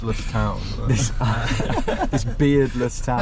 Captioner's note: laughter